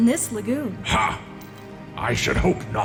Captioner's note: laugh